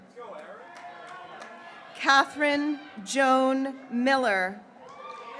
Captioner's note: graduates cheering